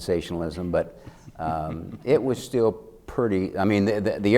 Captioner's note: chuckling